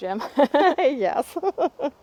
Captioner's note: laughing